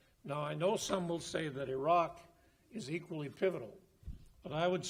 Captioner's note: none